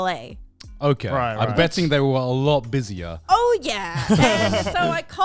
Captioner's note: hosts laugh